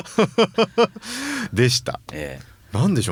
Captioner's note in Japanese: 笑い; 息をのむ音